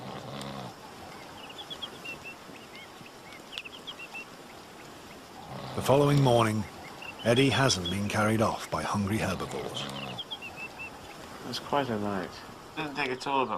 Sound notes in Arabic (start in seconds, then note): 0.0 الشخير بصوت عال; 3.4 زقزقة العصافير